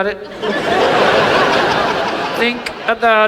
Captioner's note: audience laughs